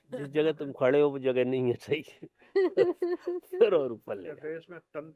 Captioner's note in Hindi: हंसी